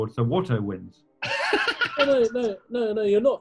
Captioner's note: laughter